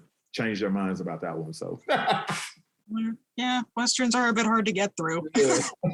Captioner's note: laughs